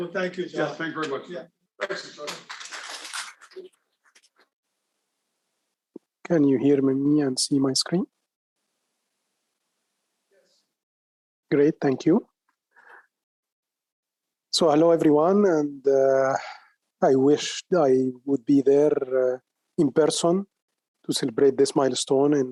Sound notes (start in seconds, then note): 2.2 audience applauding